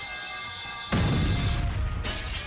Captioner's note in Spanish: Tubería de metal cayendo; Explosión; Cristal rompiéndose